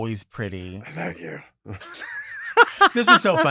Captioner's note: laughs